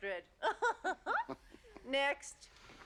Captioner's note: laughs falsely